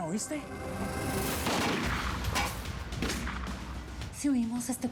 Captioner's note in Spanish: continúa la balacera